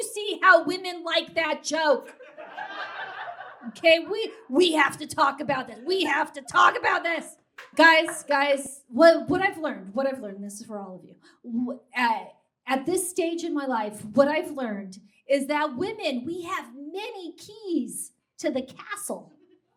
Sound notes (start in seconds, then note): 5.9 yells